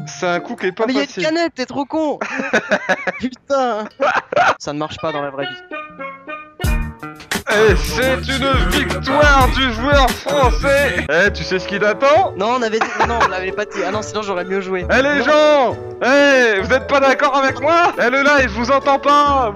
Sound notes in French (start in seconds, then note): 2.2 rires